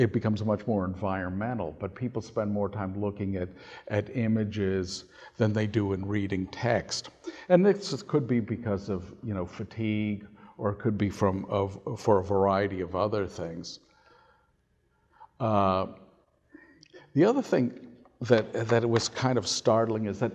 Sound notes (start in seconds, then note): none